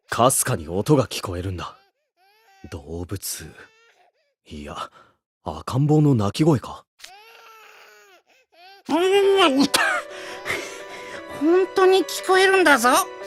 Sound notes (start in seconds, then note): 7.1 crying